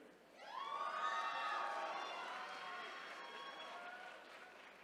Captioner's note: attendees cheering